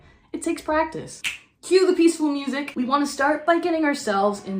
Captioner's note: finger clicks